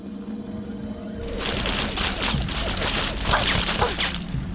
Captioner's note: the horrible sounds of metal barrels turning, followed by a minigun firing!